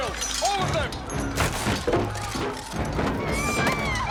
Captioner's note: women screaming